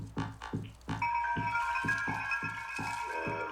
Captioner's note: chiming